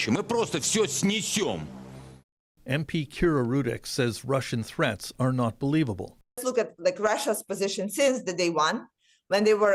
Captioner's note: speaking russian language